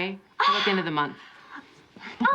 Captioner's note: gasps